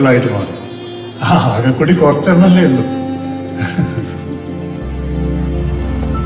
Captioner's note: laughs gently